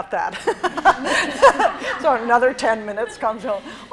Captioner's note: laughs